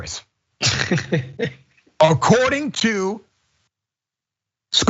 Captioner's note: laugh